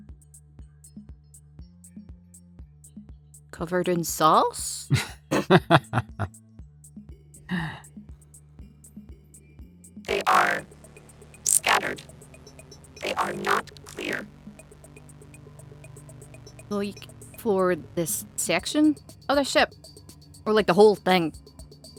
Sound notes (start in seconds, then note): 4.9 chuckles